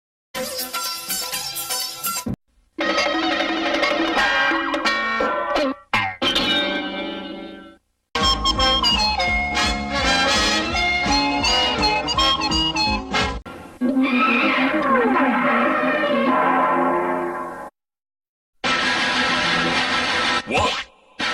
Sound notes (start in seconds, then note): 0.2 cartoon music plays; 2.7 cartoon sounds resuming; 8.2 cartoon music plays; 13.8 cartoon sounds